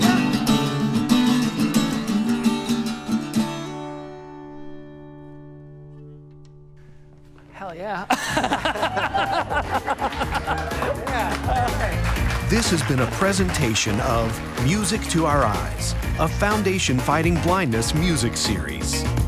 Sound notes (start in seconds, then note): 0.0 folk guitar music continues; 8.0 both laughing; 9.3 crew applauding; 9.3 crew cheering; 12.4 audience applauding; 12.4 upbeat music